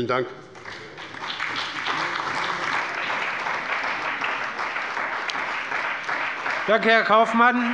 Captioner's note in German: Beifall bei dem BÜNDNIS 90/DIE GRÜNEN und der CDU